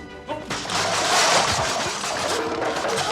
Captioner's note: objects clattering